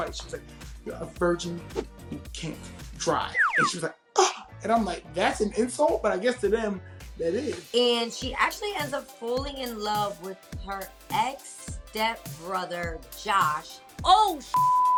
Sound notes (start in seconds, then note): 4.2 gasps; 14.5 beep